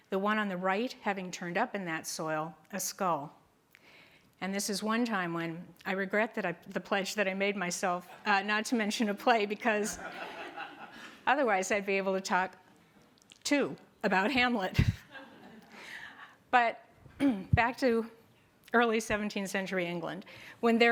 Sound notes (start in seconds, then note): 9.8 group laughter